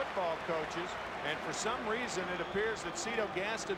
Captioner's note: applause